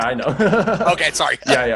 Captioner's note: laughs